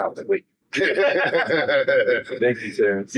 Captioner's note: laughing